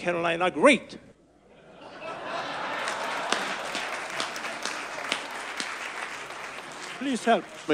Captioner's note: audience laughs; audience applause